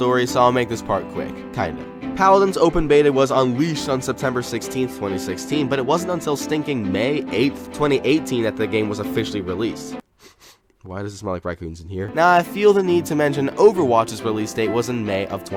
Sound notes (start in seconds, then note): 10.1 sniff, sniff